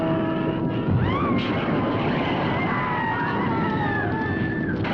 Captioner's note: witches screaming